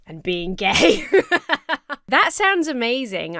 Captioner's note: laughs